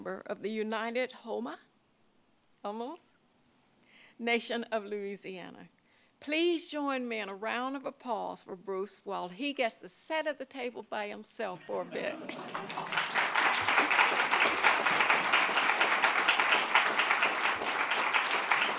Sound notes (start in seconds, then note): 11.6 laughs; 12.1 audience clapping